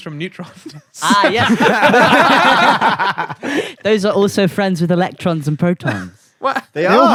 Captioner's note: laughter